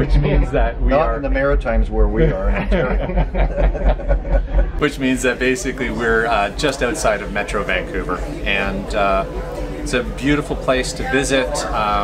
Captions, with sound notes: -Which means that we are... -Not in the Maritimes where we are in Ontario. [laughter] -Which means that basically we're. just outside of Metro Vancouver. -And aw. It's a beautiful place to visit.